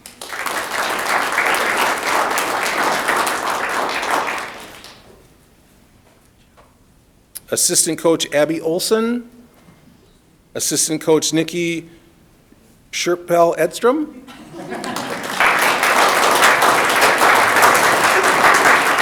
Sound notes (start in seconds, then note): 0.0 audience clapping; 14.2 people laughing; 14.5 audience clapping